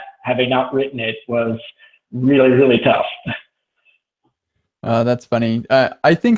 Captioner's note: laughs